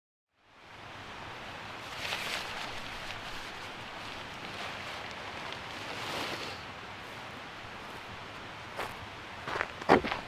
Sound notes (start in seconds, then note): none